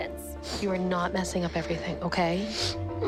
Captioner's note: sniffling